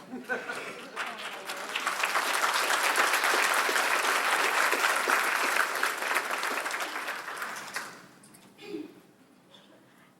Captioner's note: applause